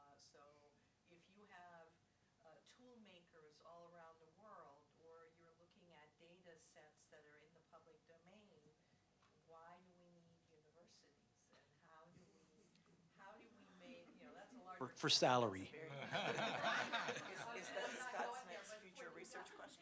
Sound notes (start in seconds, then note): 15.9 laughter